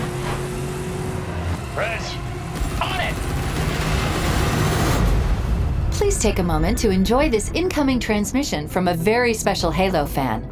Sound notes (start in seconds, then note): 2.5 machine gun fires rapidly